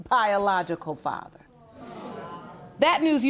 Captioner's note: audience murmurs